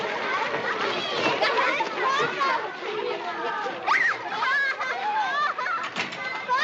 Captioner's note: happy Children's Voices